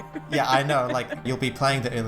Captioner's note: laughs